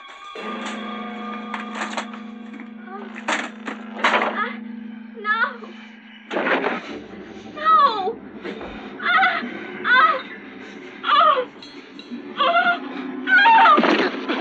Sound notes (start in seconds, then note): 8.9 Leslie yelling